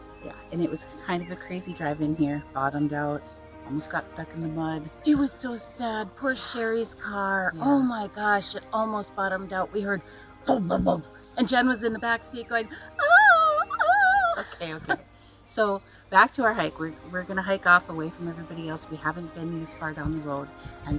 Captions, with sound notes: Yeah, and it was kind of a crazy drive in here. Bottomed out, almost got stuck in the mud. - It was so sad. Poor Sherri's car, oh my gosh, it almost bottomed out. We heard (mimics thumps) and Jen was in the backseat going, (mimics Jen screaming) - Okay, okay. So back to our hike. We're gonna hike off away from everybody else. We haven't been as far down the road,